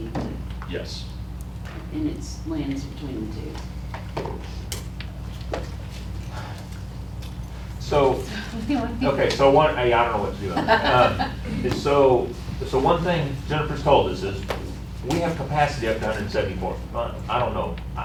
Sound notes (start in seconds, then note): 10.4 laughter